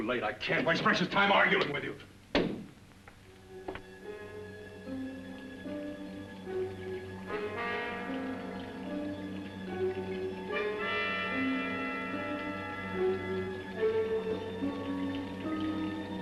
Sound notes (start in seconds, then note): 3.5 liquids bubbling; 3.8 ominous suspenseful music